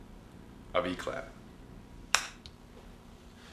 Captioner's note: figner snap